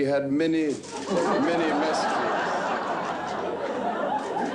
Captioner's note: audience laughs; audience continues to laugh